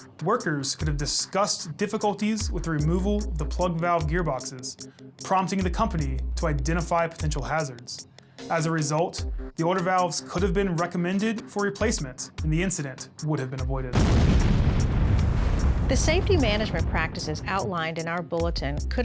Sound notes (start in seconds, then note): 13.9 sound of explosion